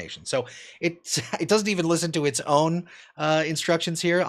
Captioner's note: laughs